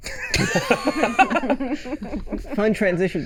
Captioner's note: laughing